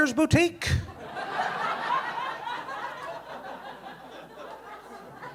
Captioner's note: audience laughing